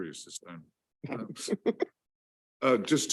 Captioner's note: chuckling